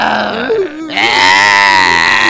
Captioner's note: crying noises